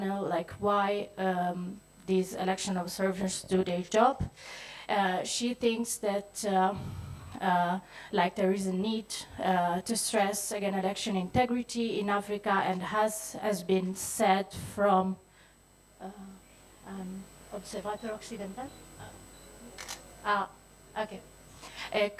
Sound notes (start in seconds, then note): 15.6 speaks in French